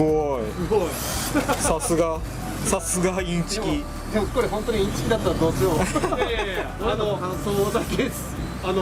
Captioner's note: laughs